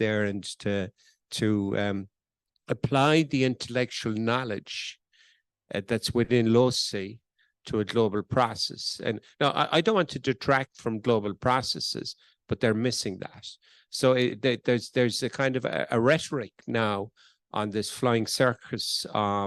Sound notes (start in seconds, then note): none